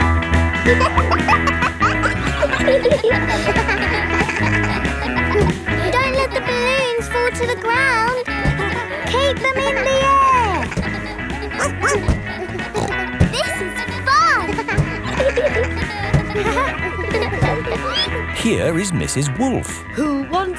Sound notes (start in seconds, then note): 0.3 pop music playing; 1.3 kids laughing; 11.5 snorts; 12.0 barks